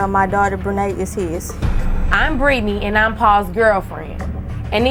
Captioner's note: none